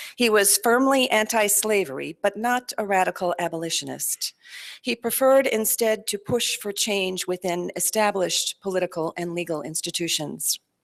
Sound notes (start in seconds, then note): none